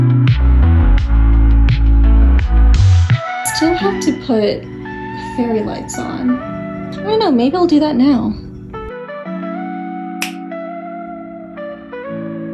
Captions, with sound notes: I still have to put fairy lights on I don't know maybe I'll do that now (snaps fingers)